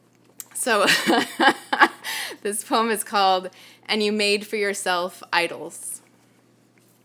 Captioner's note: laughs